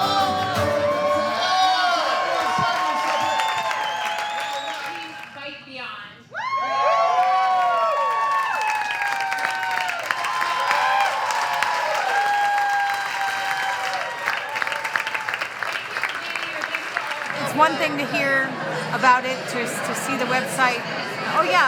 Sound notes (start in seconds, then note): 3.7 audience cheers and applause; 6.5 cheers and applause